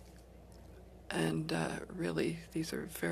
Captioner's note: speaking French